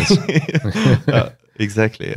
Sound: laughter

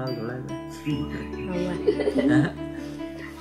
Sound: everyone laughing

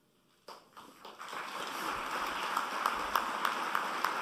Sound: applause

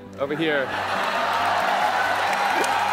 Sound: cheering; laughing

